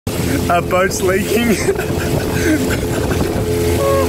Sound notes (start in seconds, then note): 0.1 plane engine roars; 1.3 laughs